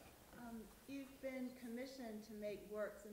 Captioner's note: voiceover